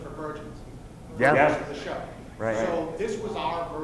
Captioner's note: voiceover